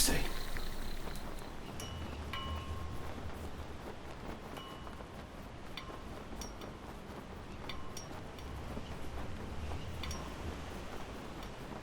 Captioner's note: sound of flag on a pole, waving in the wind